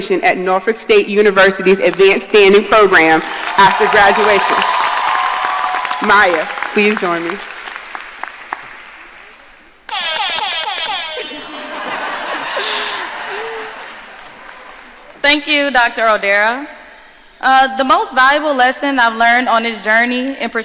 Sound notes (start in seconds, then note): 4.9 audience applauding and cheering; 9.9 siren blaring; 9.9 audience laughing